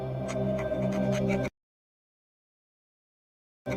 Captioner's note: ominous music; pen writing